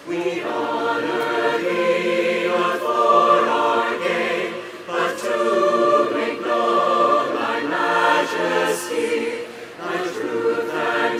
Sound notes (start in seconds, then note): none